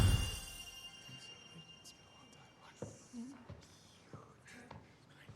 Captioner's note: crowd of parents whispering